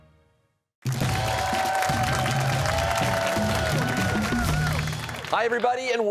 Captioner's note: cheers and applause